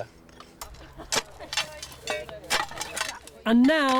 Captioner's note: tools clanking